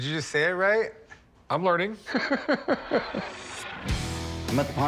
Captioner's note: laughter